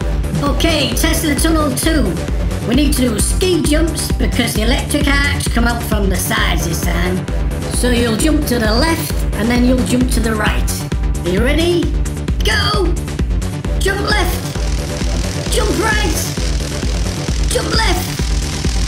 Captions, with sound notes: Okay, Tesla Tunnel Two. We need to do Ski jumps because the electric arcs come out from the sides this time. So you'll jump to the left and then you'll jump to the right. Are you ready? Go! Jump left! [Crackling electricity] Jump right! [Crackling electricity] Jump left! [Crackling electricity]